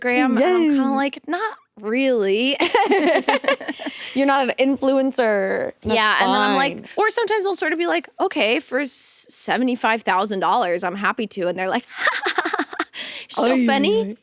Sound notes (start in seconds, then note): 2.6 both laughing